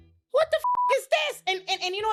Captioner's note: beep